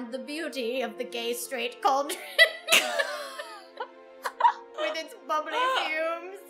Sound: both laugh

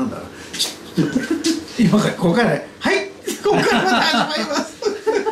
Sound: laughs

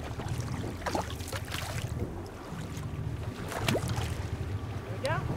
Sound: fish splashing

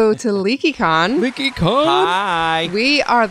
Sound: applause

